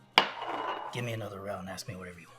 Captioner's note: glass clanks